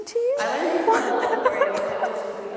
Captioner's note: laughing